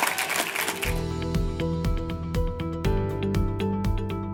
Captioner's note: cheers and applause